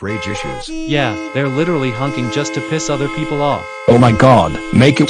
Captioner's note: car horns honking